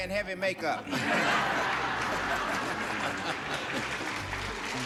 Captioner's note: all laugh